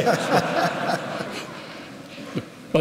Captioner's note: laughter